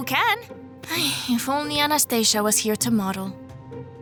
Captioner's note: sighs